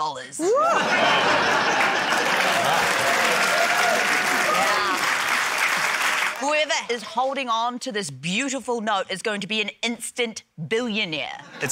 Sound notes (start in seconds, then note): 0.6 laughter, applause